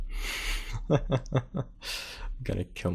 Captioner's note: chuckles